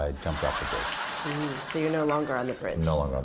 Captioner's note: laughter